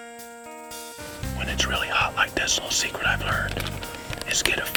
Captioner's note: whispering